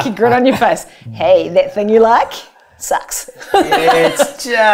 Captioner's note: laughs